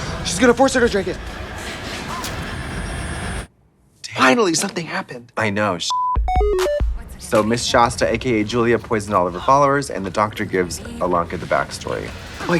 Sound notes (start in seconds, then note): 5.9 beep; 6.2 bright electronic music